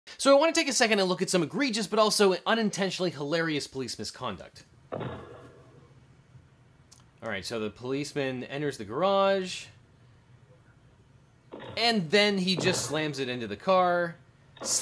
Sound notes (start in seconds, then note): 4.9 door slams